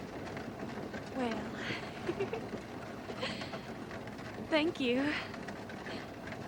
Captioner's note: giggles